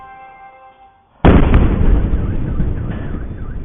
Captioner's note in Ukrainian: вибух